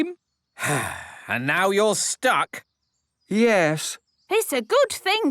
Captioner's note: sigh